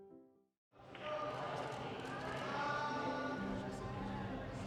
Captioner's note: people chattering